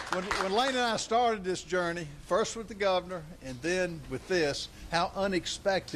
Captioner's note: cheers and applause